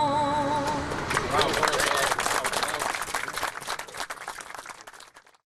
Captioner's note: crowd applauding